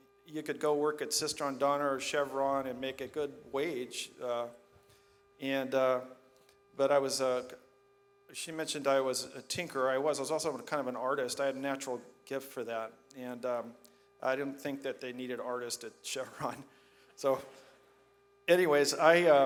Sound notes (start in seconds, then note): none